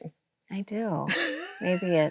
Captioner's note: Chloe laughs